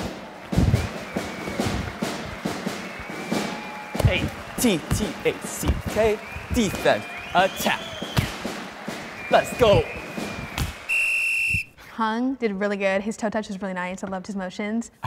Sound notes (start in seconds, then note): 0.1 crowd cheering; 0.1 marching band music; 11.0 whistle blowing